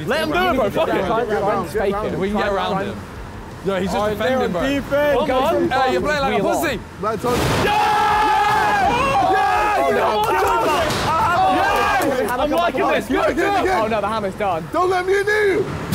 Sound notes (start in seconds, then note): 7.6 all cheering